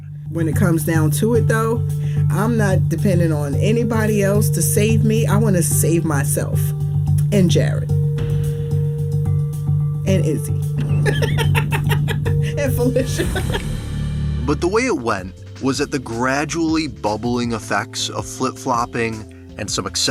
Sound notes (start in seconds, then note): 10.8 laughs